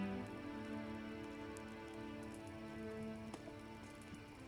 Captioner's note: fire crackling